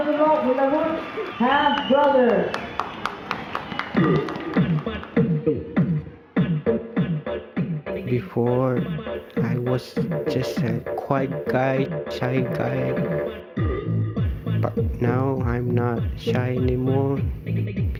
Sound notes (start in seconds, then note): 2.1 cheers and Applause